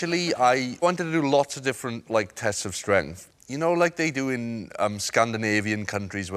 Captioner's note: none